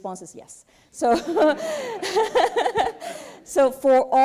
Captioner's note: laughter